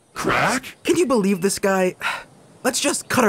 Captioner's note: sigh